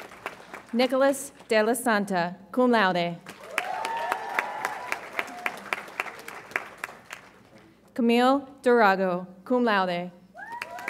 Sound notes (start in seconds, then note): 3.3 audience applauds and cheers